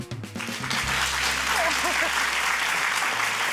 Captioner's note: applause